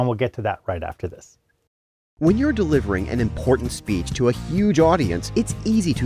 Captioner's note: voice-over